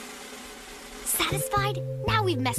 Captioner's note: whispering